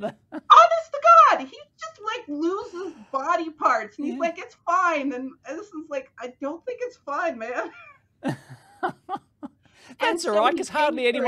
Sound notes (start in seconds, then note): 8.2 laughing